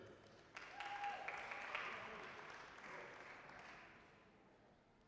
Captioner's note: applause